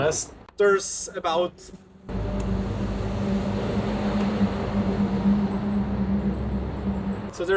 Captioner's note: intense road noise